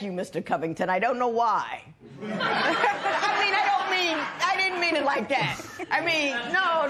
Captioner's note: laughter